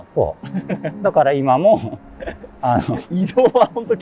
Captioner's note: laughing